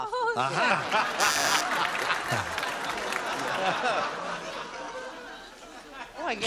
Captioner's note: laughter